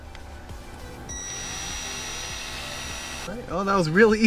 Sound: drilling

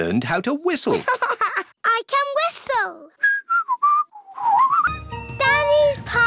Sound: laughs; whistles

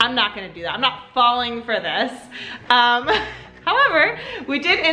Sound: laughs

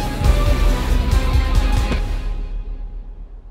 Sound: thud

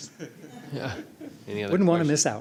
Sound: laughter

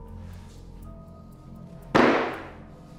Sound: strike on table

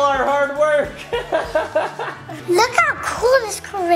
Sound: laughing

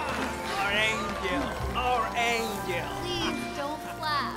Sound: crowd; crowd cheering; swelling dramatic music

